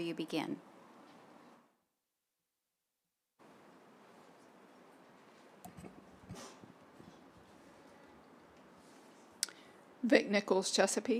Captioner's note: silence